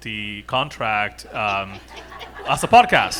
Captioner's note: audience laughing